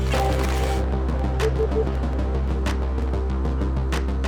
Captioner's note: static sound; beeping sound